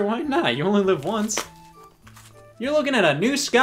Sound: none

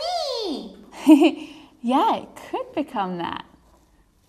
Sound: laughs

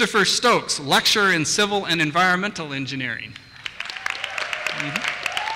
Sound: applause

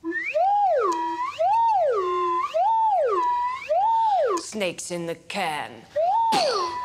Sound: swanee whistle warbling

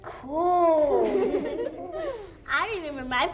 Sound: everyone laughs

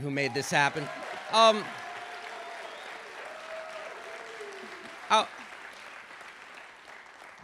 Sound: applause

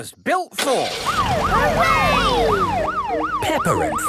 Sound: siren

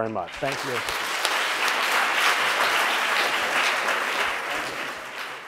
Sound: audience applauds

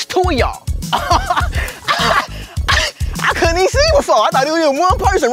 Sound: laugh

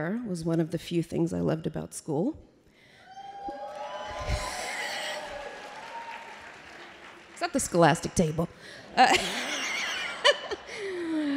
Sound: applause

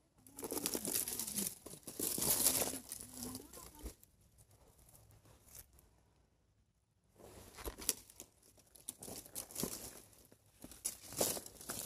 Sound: the rustling sound when I step on the bush with my foot

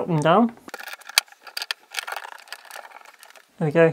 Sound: high speed ratchet sounds

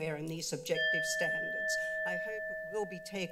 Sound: alarm sound

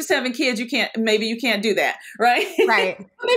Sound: laughs

